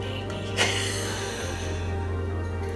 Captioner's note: laugh